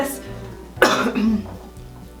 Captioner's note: coughs